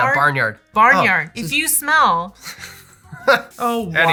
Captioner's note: laughter